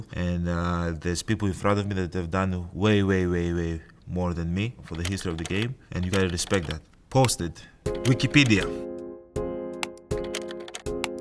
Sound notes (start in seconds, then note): 6.0 keyboard clicking; 7.8 slow music